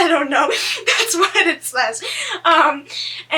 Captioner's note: laughs